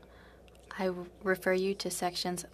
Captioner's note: speaking French